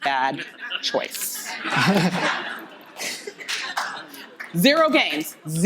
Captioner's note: audience Laughing